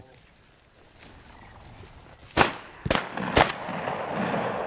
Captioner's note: booming